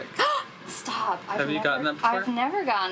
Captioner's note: gasps